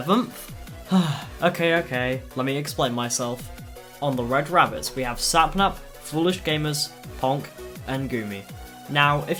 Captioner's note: sigh